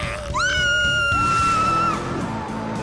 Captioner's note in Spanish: Más gritos de espanto.mp3